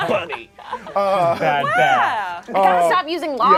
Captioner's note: overlapping chattering